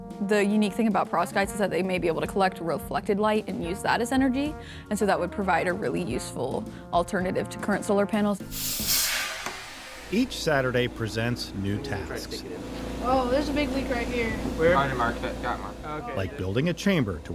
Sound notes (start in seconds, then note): 8.5 air whooshing